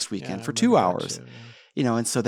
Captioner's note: faintly speaking